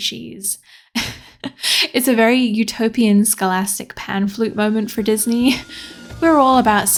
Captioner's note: laughs